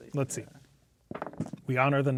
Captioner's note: dice rolling